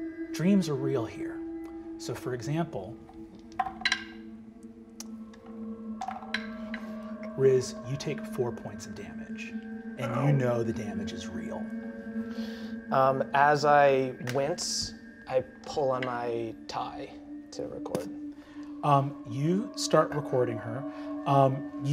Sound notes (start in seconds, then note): 3.7 dice rolling; 10.0 groans "ow"